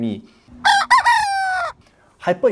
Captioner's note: cock crows